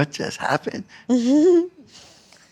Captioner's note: laughter